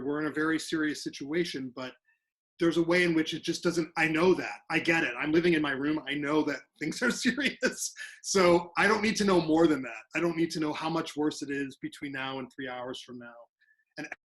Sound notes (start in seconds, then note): 7.8 laughs